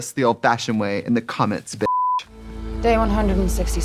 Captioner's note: beeping